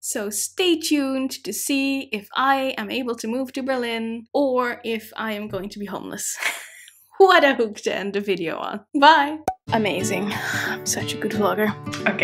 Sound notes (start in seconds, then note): 6.4 chuckling